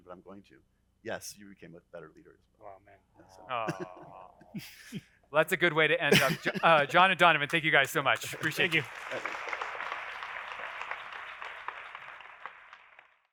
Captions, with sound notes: but I'm going to. Yes, you became a better leader as well. - Wow, man. (people awing) - That's a good way to end up. John and Donovan, thank you guys so much. Appreciate it. - Thank you. (audience applauding)